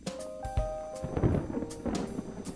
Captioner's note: thunder